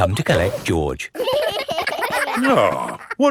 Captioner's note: giggling